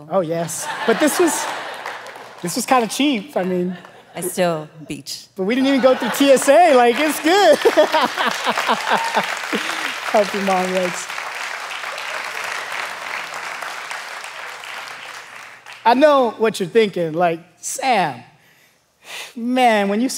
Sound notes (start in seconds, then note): 7.7 congregation applauding; 7.7 pastor laughing; 12.8 congregation applauding